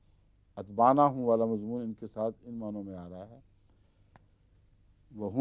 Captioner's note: Arabic